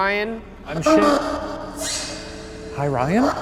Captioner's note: tense music; ghostly shrieking